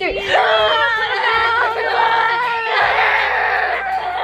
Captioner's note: crying noise